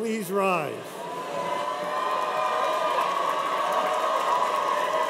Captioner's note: cheers and applause